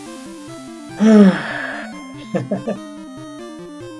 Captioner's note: sighs and chuckles